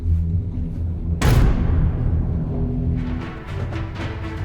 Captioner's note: door bangs; dramatic music